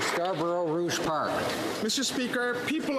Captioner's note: applause